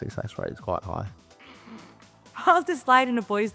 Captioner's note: laughs